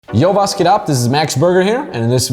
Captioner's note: speaks in a foreign language